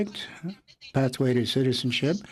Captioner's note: speaking French